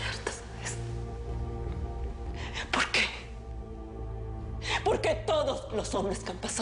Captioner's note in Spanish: Susurra